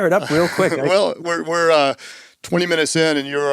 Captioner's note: chuckles